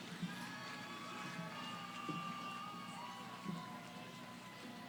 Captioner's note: cheering